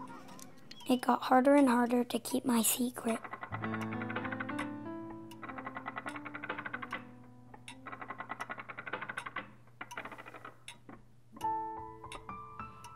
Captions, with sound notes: It got harder and harder to keep my secret. (gears grind) (piano music)